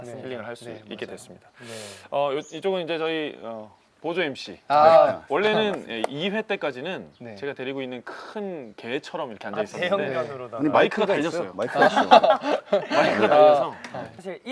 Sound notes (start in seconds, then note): 11.6 laughing